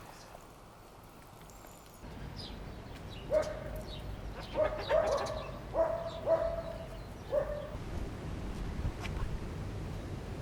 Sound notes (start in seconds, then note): 2.9 bird and dog sounds